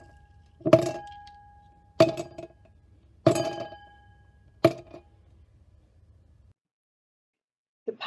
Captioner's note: sound of ice cubes clinking into glass